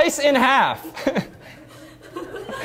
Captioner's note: laughter